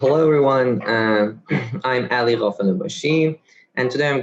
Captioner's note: clears throat